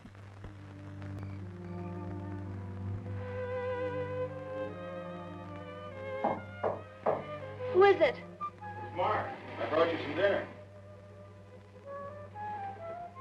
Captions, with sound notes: (gentle music) (crickets chirping) (door knocking) - Who is it? - It's Mark, I brought you some dinner.